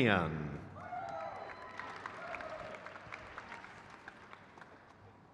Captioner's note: crowd claps